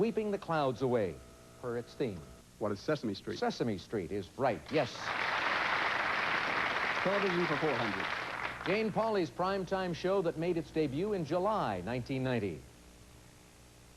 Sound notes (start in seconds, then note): 6.4 applause